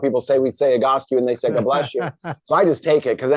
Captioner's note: chuckles